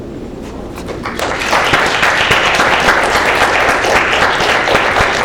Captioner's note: everyone clapping